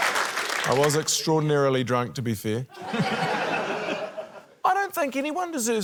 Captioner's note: laughter